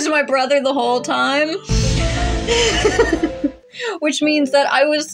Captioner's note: laugh